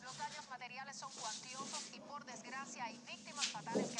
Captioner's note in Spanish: Voz en la tv